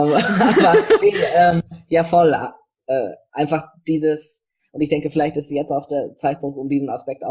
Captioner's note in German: beide lachen